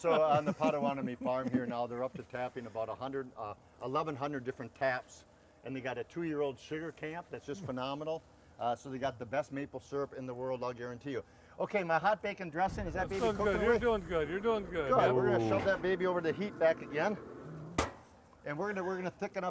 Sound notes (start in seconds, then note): 10.9 fire sizzling; 17.2 metal clanking